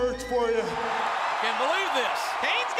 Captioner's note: crowd cheers